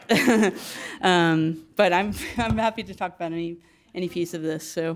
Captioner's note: laugh